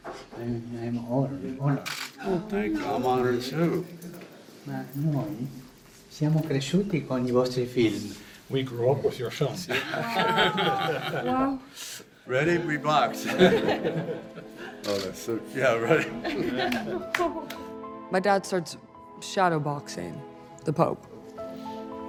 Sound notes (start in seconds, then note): 4.7 speaking in foreign language; 9.6 group laughing; 13.1 group laughing